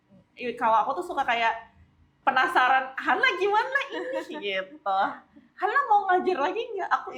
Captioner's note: laughs